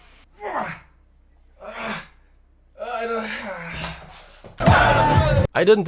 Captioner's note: breathing heavily; high energy house music